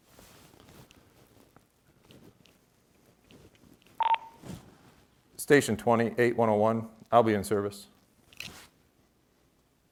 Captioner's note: beep